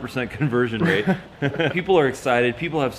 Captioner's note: laughs